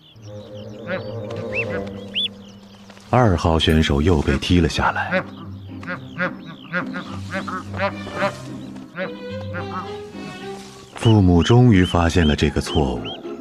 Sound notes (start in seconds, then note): 1.0 soft playful music; 5.4 geese honking